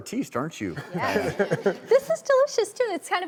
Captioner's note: laughs